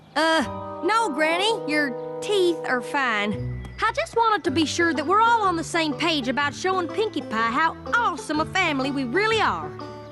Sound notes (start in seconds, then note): none